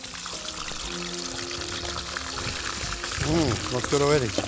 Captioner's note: sizzling